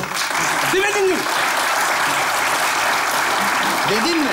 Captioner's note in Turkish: Alkış sesleri